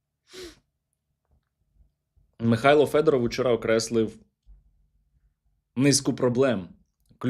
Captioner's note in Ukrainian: сопіння